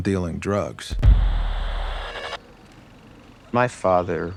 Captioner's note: static